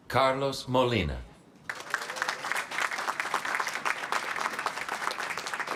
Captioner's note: applause